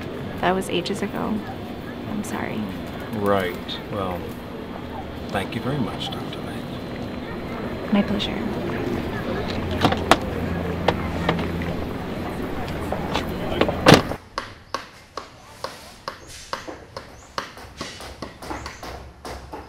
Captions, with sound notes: THAT WAS AGES AGO. I'M SORRY. RIGHT... WELL THANK YOU VERY MUCH Dr. Lake. MY PLEASURE. [CONSTRUCTION WORK SOUNDS]